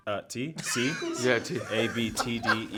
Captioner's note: cast laughing